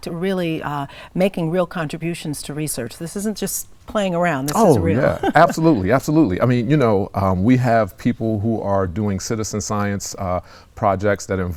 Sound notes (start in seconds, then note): 4.5 laughs